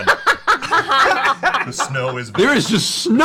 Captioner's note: laughter